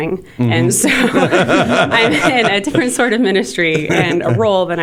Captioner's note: laughter